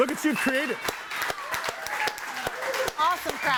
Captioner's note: audience applauding continues